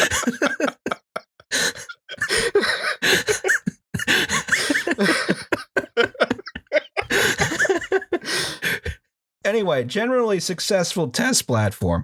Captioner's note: laughter; helpless laughter